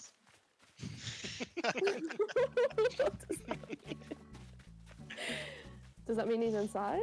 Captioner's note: laughter